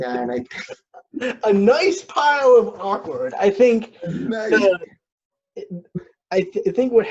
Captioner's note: laughs